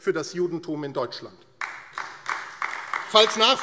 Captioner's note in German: Beifall AfD